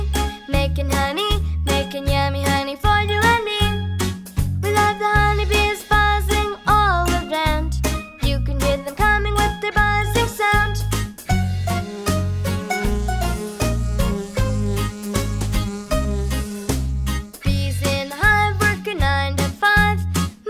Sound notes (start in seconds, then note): 11.2 buzzing; 11.4 lively music